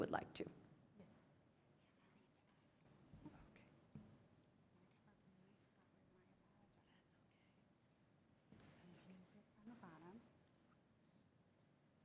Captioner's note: quiet pause